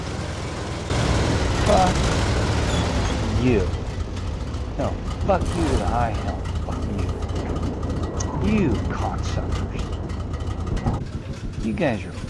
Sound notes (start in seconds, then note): 1.0 arty player mumbling/ranting in the backround